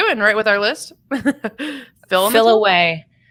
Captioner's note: laughs